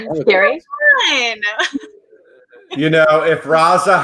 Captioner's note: laughing